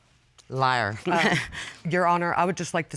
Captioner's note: chuckles